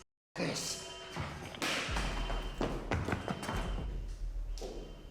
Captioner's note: alarm blaring